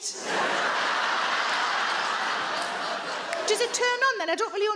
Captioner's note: audience laugh